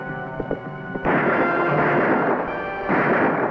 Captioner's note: ominous music; gun firing; dramatic music